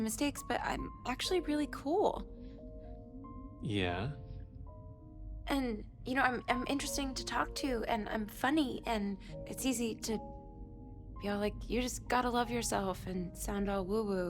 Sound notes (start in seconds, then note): none